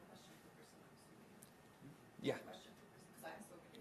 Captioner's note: speaks faintly